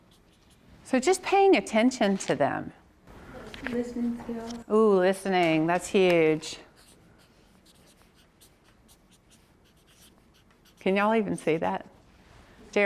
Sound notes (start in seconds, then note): 6.7 marker scribbles